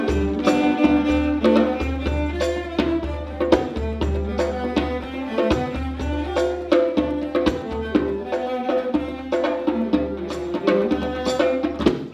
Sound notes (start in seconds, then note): none